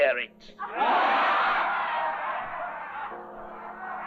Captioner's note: crowd laughing